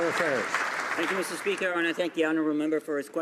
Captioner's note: some Applause